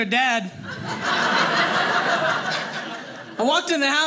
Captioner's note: audience laughing